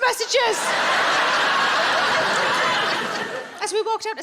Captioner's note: audience laughing